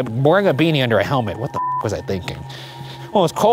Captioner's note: beep